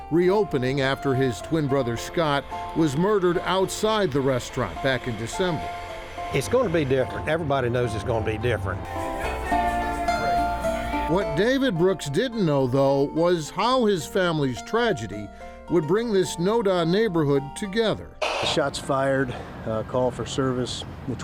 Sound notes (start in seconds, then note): 8.9 soothing music; 18.2 police radio squelching